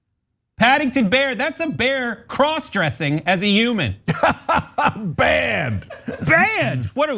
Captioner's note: laugh